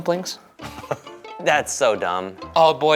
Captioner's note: laughing